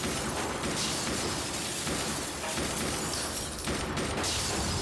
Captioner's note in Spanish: ruido al romper vidrios